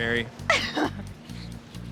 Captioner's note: giggles